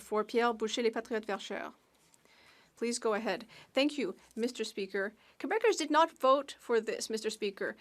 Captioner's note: speaking French